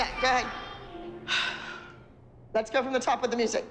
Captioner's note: sighs